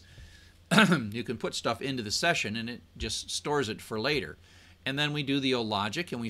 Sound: cough

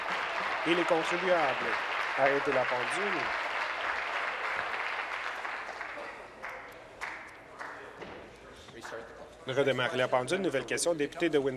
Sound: applause

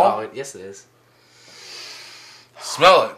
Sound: breathes deeply

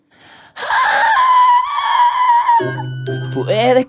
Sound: flawless whistle note

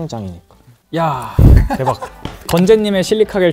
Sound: he sighs

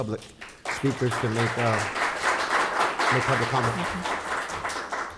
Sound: audience applauds

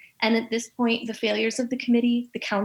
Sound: none

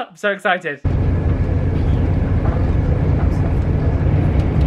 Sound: engine rumbling

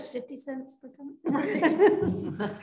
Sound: laughter

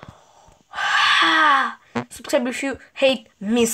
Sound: gasp

